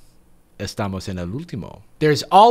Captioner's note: speaking Spanish